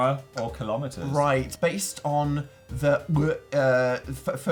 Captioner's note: choking noise